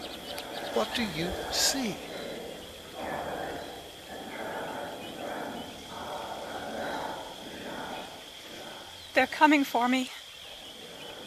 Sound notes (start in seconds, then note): 3.2 mysterious whisper chanting